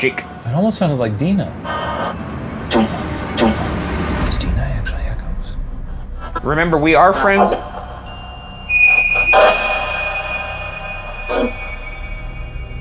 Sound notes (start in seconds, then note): 7.3 REM-Pod beeping; 9.2 tense foreboding music